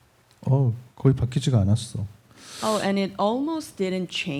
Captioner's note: speaking korean